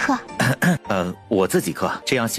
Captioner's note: clears throat